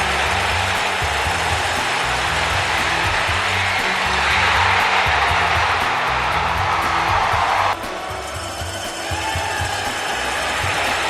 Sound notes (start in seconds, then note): 4.4 cheering